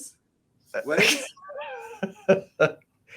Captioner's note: laughs